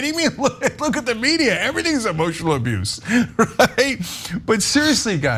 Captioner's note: laugh